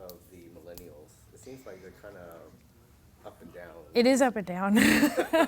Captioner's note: laughing